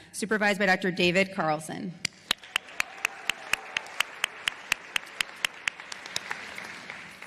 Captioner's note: applause